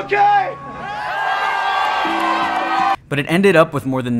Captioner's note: crowd cheers